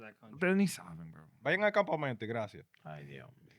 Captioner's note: speaking In Foreign Language